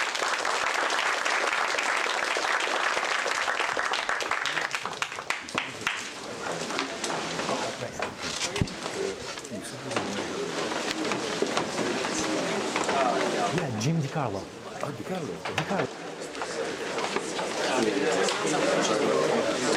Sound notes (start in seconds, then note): 4.0 background chatter